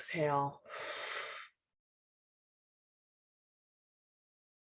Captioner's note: exhales slowly